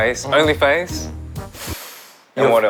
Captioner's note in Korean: 쓰읍